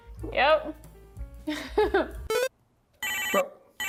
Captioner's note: laughing; phone ringing